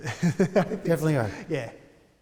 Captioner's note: laughter